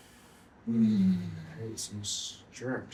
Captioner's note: moaning